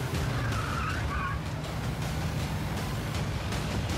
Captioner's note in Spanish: chirrido de neumáticos